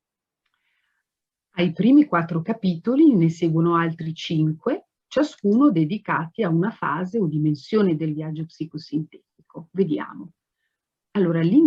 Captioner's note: speaks Italian